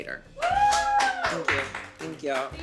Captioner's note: all applaud